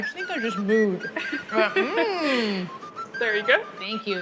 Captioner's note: laughs